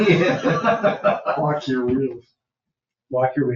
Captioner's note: people laughing